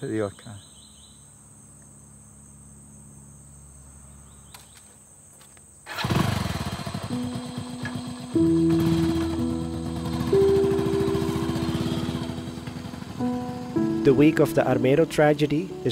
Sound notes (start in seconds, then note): 0.0 grasshoppers chirping; 5.8 motorbike revving; 8.3 soft instrumental music; 10.3 motorbike revving